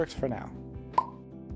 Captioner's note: pop